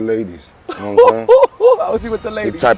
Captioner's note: laughing